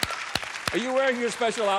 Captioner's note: applause